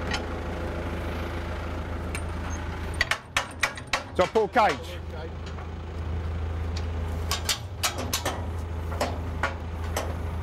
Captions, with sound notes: Shall I pull the cage? (clanging and rattling)